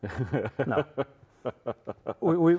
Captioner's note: laughing